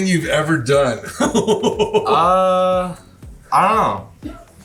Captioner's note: laughing